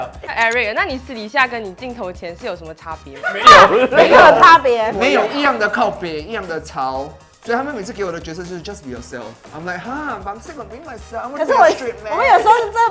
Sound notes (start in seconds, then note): 6.2 rowdy in Hokkien